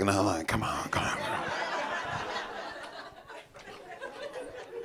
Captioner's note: audience laughing